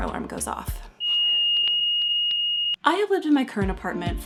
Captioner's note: eeeech eeech eech of fire alarm going off